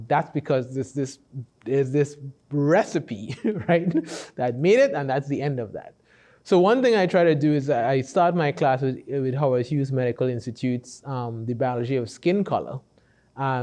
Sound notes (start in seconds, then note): 3.3 laughs